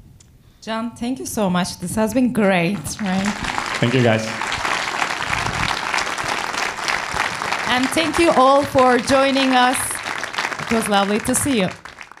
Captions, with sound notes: - Can, thank you so much. This has been great, right? (audience claps) - Thank you guys. - And thank you all for joining us. It was lovely to see you.